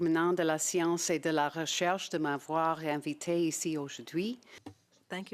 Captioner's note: speaking French